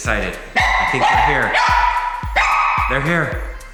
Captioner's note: dog barking